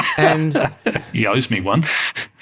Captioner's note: laughter